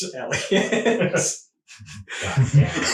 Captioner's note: all laughing